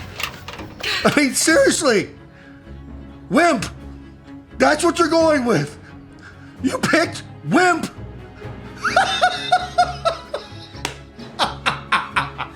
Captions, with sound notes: (radio) I mean, seriously! 'Wimp!' That's what you're going with! You picked 'wimp!' (laughing in conspiracy)